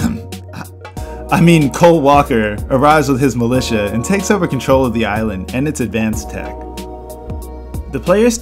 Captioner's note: cough